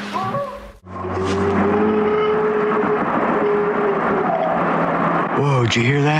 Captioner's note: A strange roar